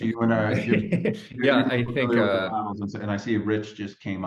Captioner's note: chuckles